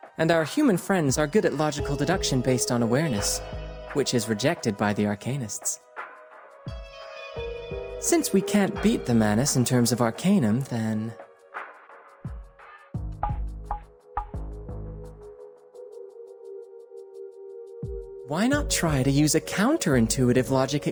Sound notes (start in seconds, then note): none